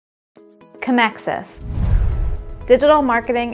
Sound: swoosh

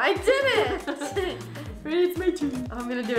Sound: laughs

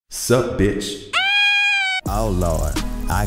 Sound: screaming

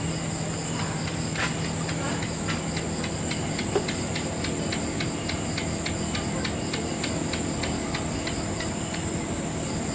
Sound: gecko chak chak chak sound

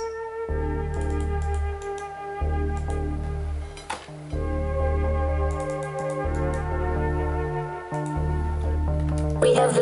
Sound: mouse clicking

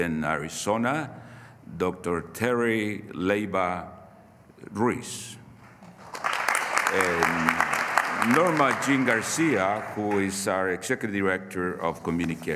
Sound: applause

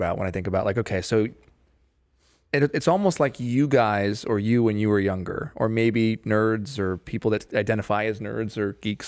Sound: none

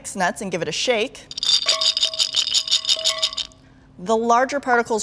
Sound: nuts rattling in jar

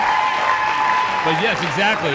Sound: audience cheering

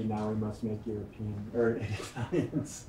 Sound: laughs

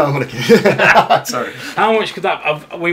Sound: both laughing

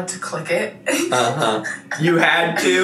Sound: giggling

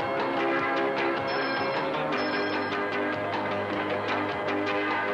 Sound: music, tram rings

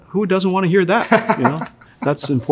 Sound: laughs

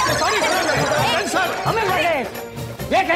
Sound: indistinct chatter

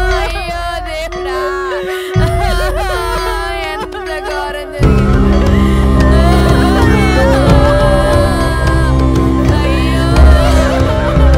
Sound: crowd crying at the funeral

